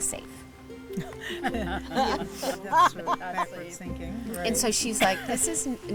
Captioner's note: women laugh